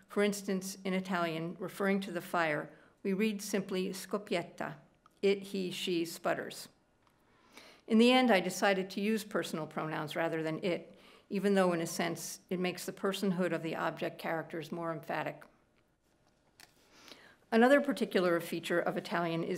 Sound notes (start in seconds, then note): 4.0 speaking italian